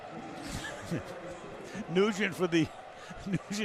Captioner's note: laughter